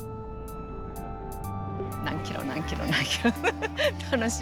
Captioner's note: speaking Japanese